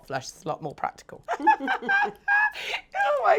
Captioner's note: laugh